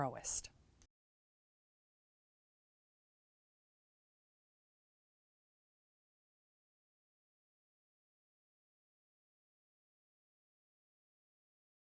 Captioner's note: no Sound Present